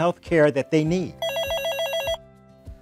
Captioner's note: phone ringing